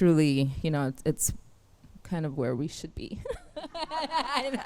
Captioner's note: laughs